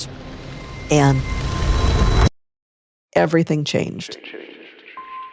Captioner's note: echoing